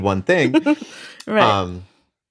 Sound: laughs

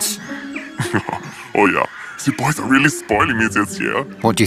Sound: chuckles

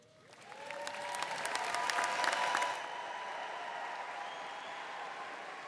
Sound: audience applauding and cheering

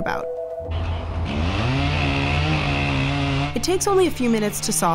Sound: chainsaw sawing

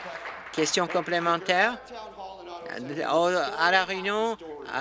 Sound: applause

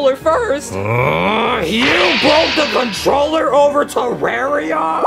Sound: grunts furiously

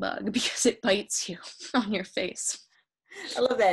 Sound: laughing

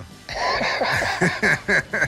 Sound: laughs

